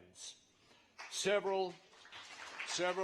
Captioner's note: applause